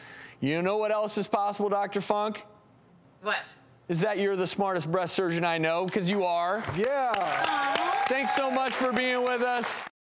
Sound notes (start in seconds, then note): 6.6 audience applauds and cheers